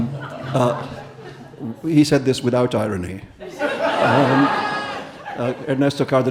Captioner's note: audience laughing; audience laughing